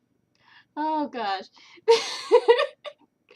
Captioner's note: laughter